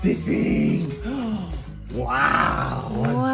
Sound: gasps

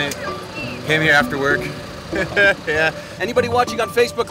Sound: chuckling

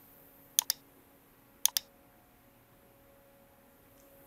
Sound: mouse clicking

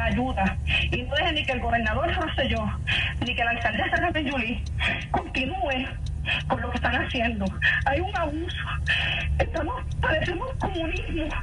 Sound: sobbing

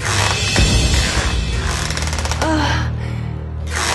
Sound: creak

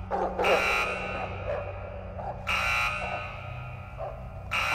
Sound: dog barking

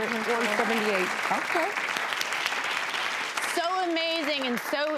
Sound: crowd applauds

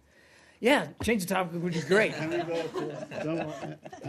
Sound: laughter

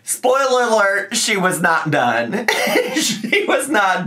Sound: laughs

